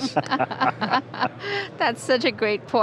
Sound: laugh

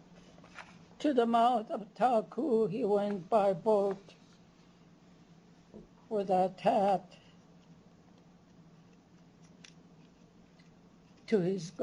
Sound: non-english

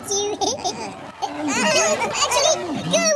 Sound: scream

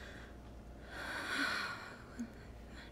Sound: sighs

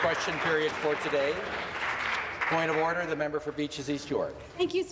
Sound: applause

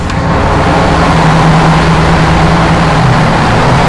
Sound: boat roars

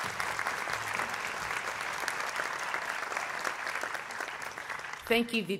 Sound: applause

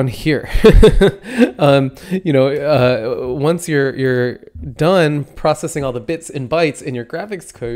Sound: laughs

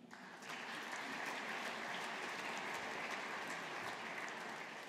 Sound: audience applauding

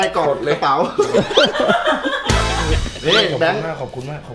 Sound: laughing

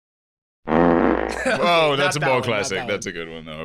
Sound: fart sound effect

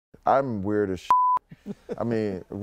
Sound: laughter

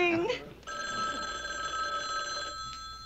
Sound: phone rings

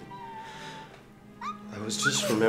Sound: Jenna muttering playfully

